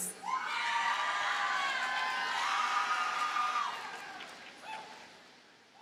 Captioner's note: audience cheers and applauds